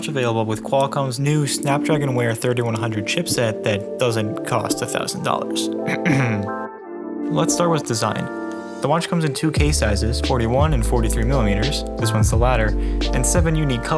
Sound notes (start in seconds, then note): 5.8 clear throat